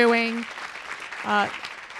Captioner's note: applause